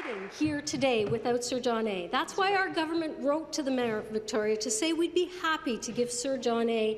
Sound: applause

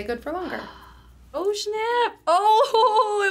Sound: gasps

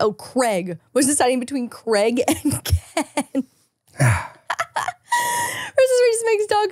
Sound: laughing

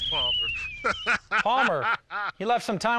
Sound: laughter

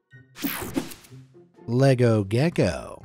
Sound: image whooshing

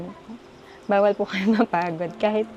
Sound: chuckles

